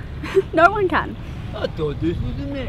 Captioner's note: laughs